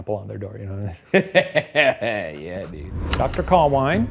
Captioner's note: laughing